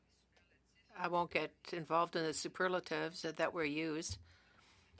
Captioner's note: speaking French